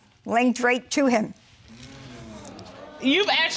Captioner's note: audience sighing